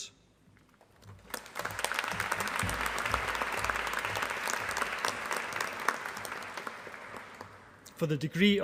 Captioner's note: applause